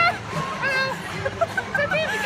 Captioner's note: laughter